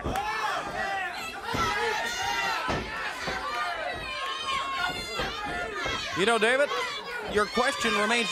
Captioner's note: crowd cheering